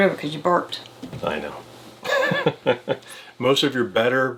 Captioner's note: laughs